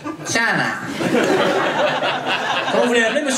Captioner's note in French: rires public